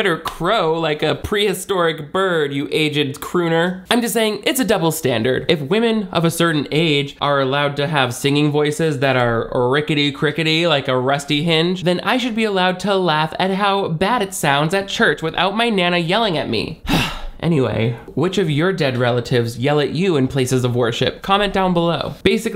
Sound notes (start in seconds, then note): 16.8 sighs